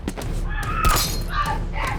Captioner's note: woman screaming; gunshots